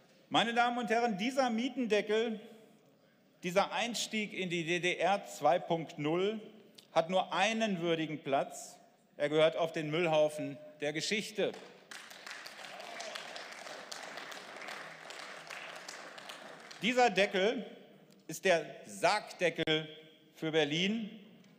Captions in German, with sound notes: Meine Damen und Herren, dieser Mietendeckel, dieser Einstieg in die DDR 2.0, hat nur einen würdigen Platz: Er gehört auf den Müllhaufen der Geschichte. (Beifall) Dieser Deckel ist der Sargdeckel für Berlin.